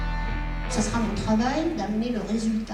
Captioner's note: speaking french